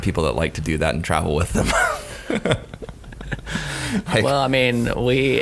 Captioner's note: laughing